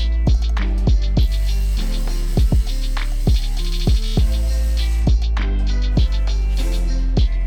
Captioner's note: upbeat music; tool buzzing